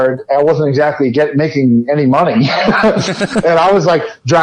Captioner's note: laughs